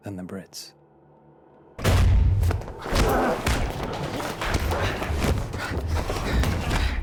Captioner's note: men grunting; blows thudding